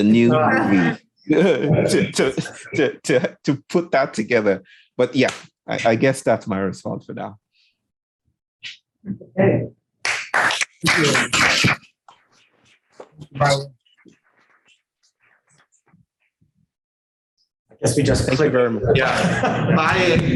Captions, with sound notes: (laughing) to put that together. But yeah, I guess that's my response for now. (audience clapping) - I guess we just. (indistinct conversation) Bye. bye bye.